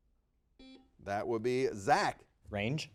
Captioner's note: buzzer dings